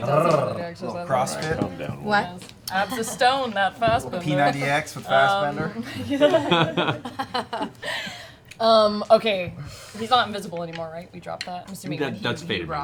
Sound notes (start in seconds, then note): 5.8 laughter